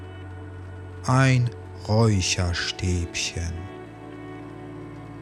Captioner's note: german